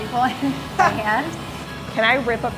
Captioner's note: laughs